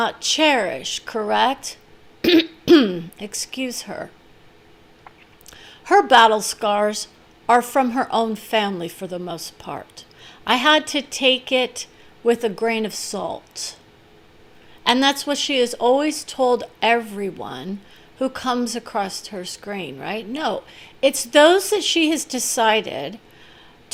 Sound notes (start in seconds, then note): 2.2 clearing throat